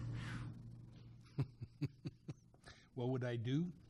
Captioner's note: laughs